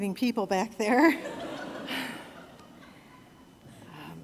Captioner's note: laughter